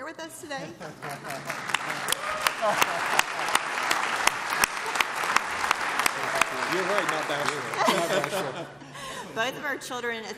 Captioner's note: applause